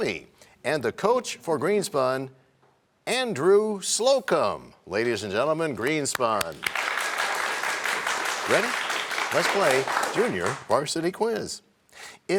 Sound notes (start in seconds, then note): 6.3 applause